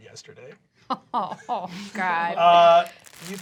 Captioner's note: groans